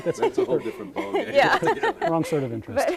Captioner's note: all laughing